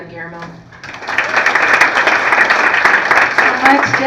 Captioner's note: applause